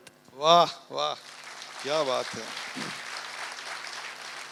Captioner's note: audience applauds